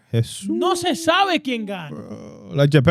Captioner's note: speaking In Foreign Language